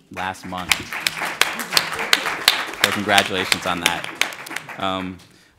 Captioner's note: applause